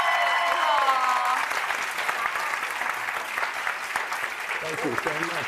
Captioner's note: applause